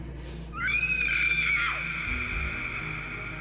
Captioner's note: screams